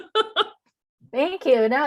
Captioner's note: laughing